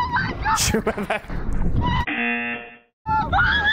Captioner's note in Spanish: zumbador; chica a la izquierda grita